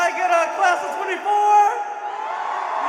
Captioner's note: cheering